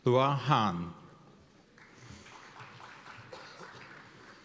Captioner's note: applause